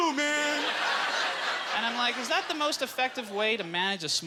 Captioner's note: audience laughter